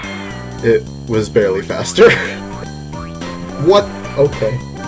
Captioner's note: laughs